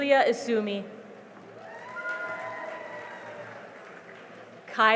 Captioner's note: cheering and applause